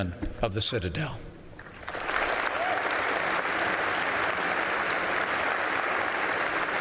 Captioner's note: applause